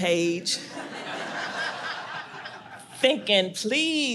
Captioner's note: audience laughs